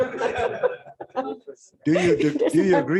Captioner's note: laughter